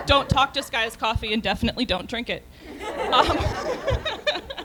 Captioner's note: laughter